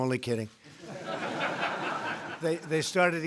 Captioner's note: laughter